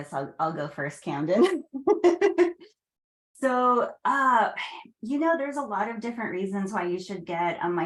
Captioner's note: laughs